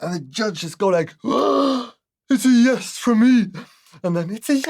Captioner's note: gasp